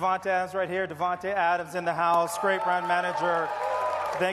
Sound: cheers and applause

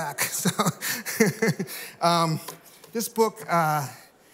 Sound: laughter

